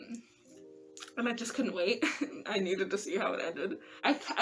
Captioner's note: laugh